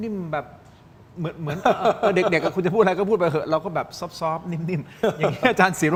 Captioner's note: laughter